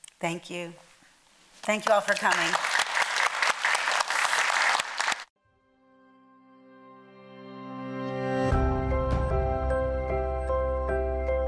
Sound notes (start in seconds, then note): 1.6 audience clapping; 6.4 uplifting music